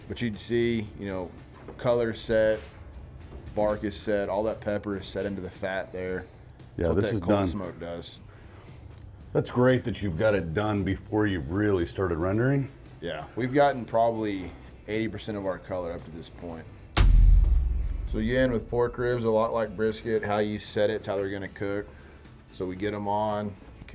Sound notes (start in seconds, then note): 16.9 text thuds